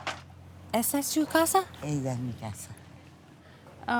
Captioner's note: speaking Spanish